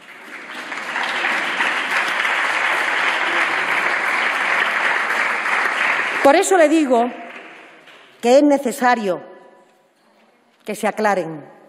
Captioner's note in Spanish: Aplausos